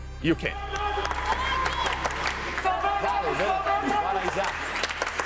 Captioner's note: crowd cheering